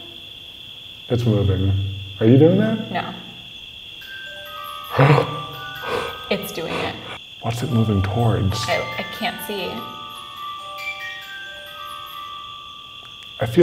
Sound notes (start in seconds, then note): 4.0 music box chiming; 5.8 gasps; 10.2 music box chiming